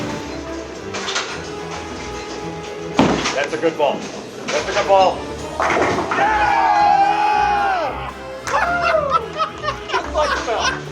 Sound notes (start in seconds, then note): 6.0 cheers; 8.6 laughs